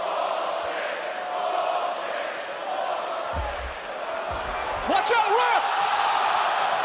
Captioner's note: crowd chants "bull--"